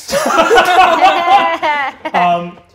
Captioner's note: all laugh